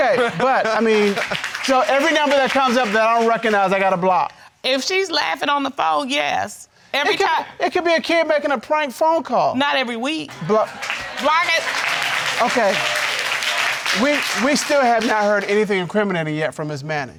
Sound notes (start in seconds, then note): 0.0 audience laughing; 10.3 audience applauding